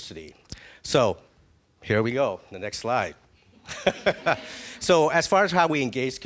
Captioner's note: laughing